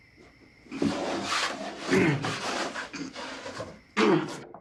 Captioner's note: grunting